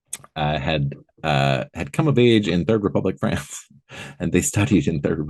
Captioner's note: laughing